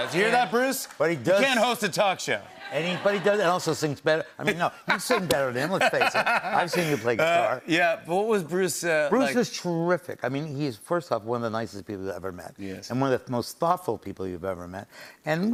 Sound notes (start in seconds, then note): 5.7 laughs